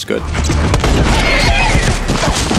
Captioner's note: horse screaming